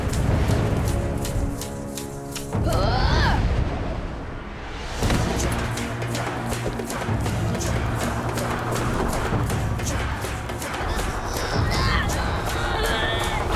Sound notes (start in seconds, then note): 2.5 groaning; 10.9 moaning